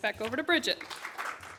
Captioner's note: applause